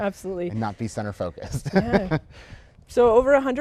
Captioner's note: laughs